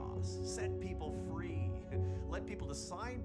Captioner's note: chuckles